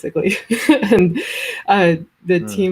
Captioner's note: laughs